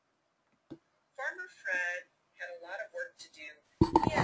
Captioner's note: recording plays